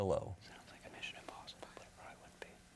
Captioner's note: whispering